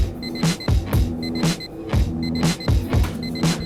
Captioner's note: alarm clock beeps; relaxed rock music continues